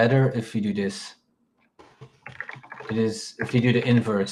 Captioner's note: keyboard clacking